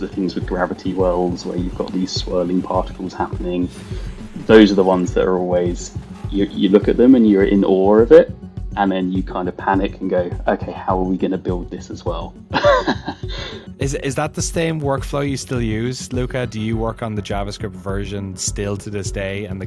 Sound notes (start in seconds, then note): 12.5 laughs